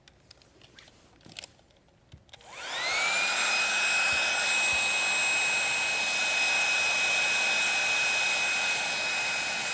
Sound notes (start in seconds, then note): 2.4 blow dryer whirring